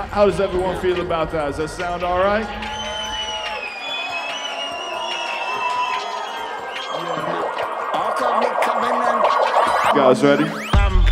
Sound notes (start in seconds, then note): 2.6 applause; 8.1 swelling music